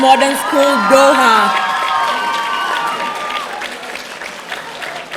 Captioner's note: audience cheering